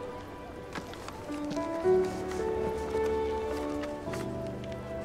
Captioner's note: light music; paper rustling